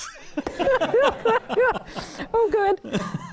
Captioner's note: panelists laughing